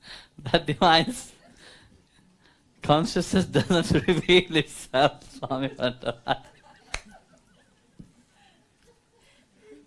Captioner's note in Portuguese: risos